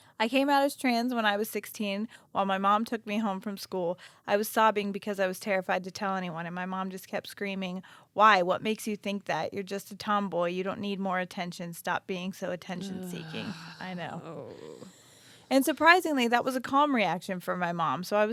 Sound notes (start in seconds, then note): 12.7 groans